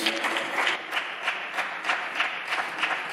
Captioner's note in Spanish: Aplausos